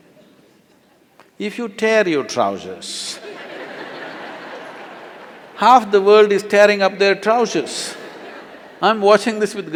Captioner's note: laughter